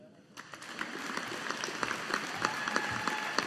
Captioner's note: audience applauding